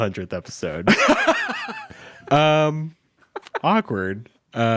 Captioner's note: laughs